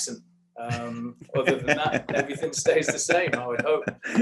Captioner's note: laughter